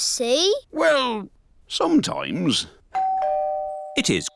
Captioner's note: doorbell dings